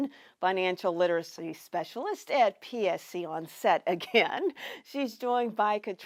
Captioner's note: laughs